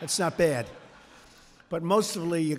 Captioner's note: laughter